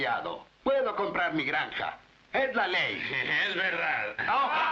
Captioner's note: snickering